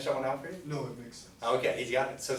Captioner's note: voiceover